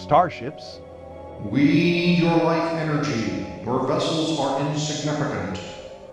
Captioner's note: deep, booming voice